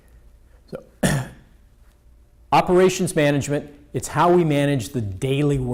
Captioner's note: clears throat